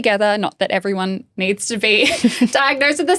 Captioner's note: laughing